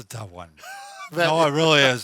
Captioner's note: chuckling